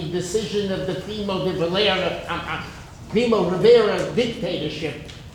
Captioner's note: speaking in foreign language